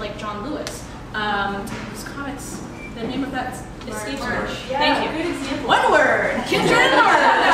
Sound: laughter

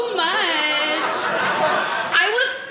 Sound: audience laughing

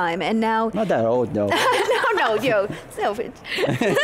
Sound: laughing

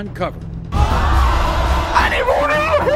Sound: audience gasping

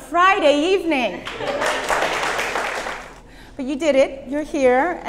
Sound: applause

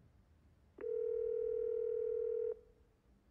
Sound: dial tone rings

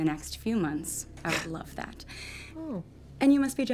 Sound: chuckles

